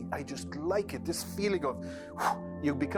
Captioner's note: exhales